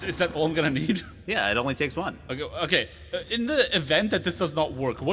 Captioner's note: stuttering